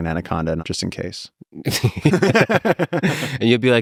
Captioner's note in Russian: Пол и Лекс смеются